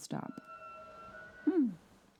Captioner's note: screeching train noise